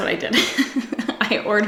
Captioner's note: laughs